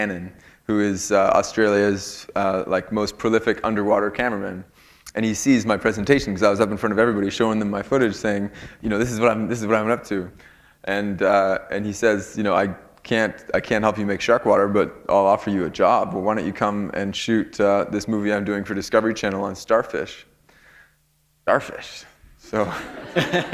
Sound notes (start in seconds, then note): 22.6 laughter